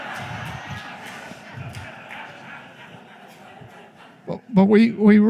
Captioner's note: laughter